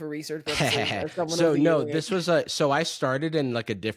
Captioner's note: laughing